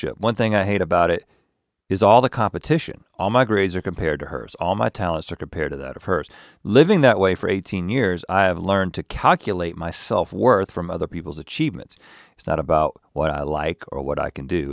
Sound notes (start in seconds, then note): none